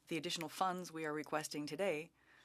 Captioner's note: speaking French